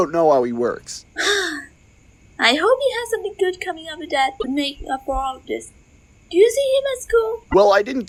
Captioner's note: sigh